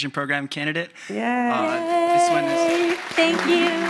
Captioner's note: audience applauding